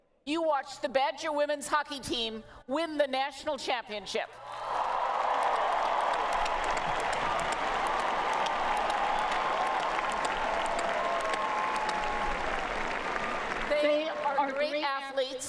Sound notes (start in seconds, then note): 4.4 cheering and Applause